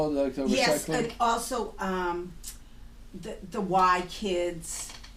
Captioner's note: voiceover